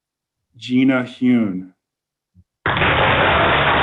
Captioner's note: applause